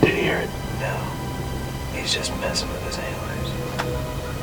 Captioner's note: whispering